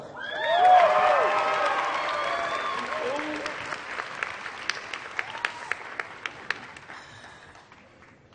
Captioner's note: applause